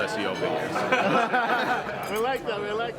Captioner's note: laughter